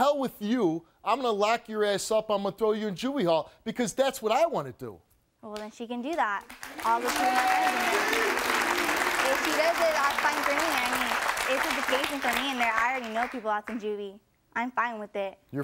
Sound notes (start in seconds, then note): 6.4 audience applauding